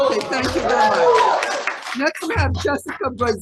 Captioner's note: audience applauding